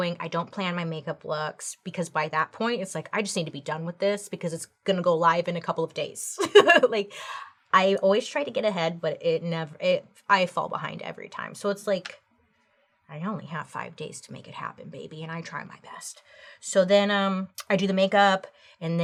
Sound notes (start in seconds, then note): 6.4 laughs